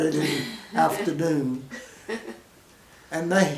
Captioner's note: women chuckle